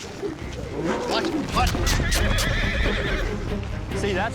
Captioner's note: horse neighs loudly